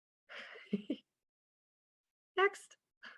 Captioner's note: chuckling